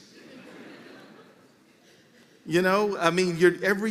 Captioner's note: laughter